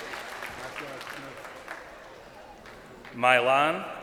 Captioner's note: crowd cheering